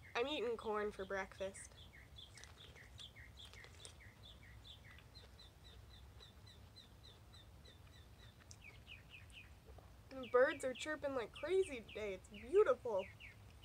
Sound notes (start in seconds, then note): 0.0 birds chirping; 2.0 birds chirping and munching; 4.4 birds chirping